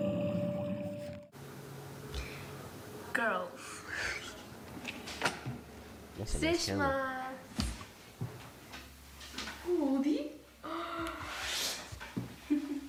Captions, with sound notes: (slow music) Girls. (speaking in foreign language) Woody?